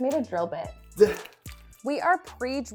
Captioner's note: chuckles